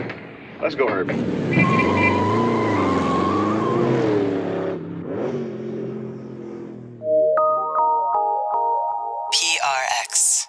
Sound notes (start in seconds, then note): 0.8 car tires screeching; 1.6 car hooting; 2.7 car engine revving; 7.0 gentle music